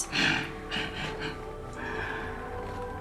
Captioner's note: laughs